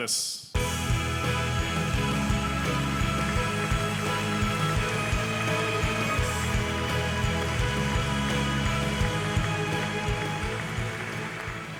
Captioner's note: applause